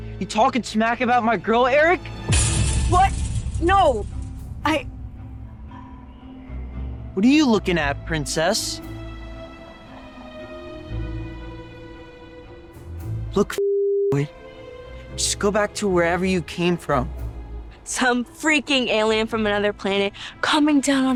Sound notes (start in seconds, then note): 2.4 chain link fence rattles